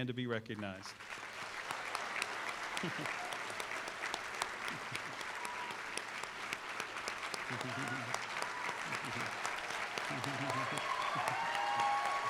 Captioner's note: applause